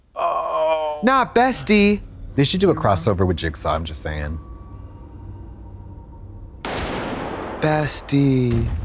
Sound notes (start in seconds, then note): 6.6 gun firing